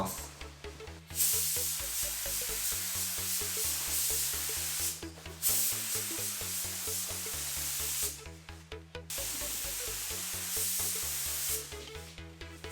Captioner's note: paint sound